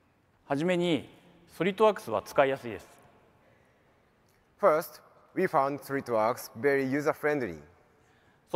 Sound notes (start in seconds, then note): 0.8 speaks in foreign language